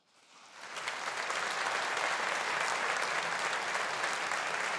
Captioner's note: audience applauding